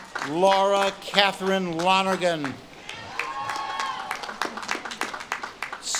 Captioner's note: audience claps and cheers